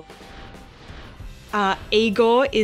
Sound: air whooshing; gentle music

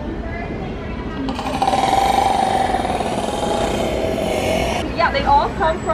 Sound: orca makes clicking sound

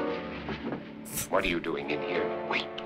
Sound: chuckles

